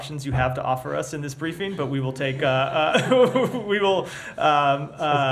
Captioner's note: laughter